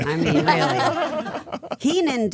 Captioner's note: all laughing